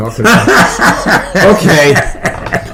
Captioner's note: laughs